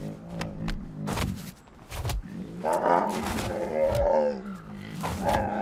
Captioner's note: bears thud in snow and growl